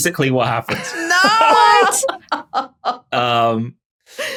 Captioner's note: laughs